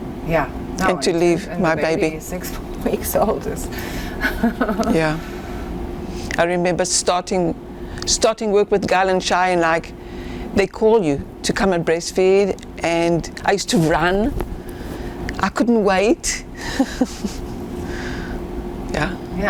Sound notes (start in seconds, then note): 4.2 laughing; 16.6 laughing